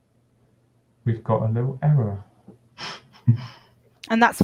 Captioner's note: chuckles